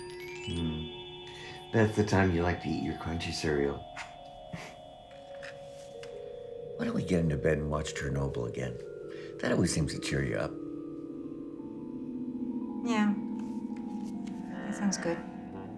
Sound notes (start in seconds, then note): 4.5 giggling